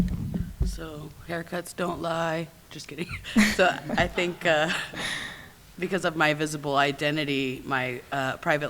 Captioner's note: laughs